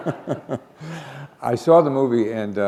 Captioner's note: chuckle